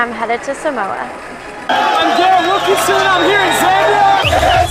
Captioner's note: cheering